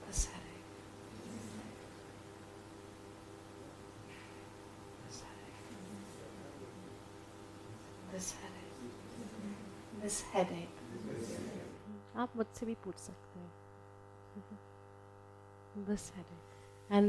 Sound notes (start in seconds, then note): 12.3 speaks in foreign language